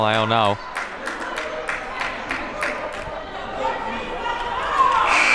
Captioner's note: audience member clapping